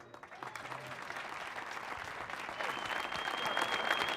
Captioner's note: audience applauding